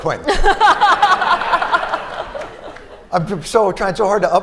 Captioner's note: laughter